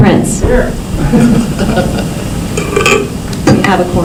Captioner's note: laughter